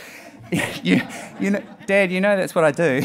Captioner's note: laughing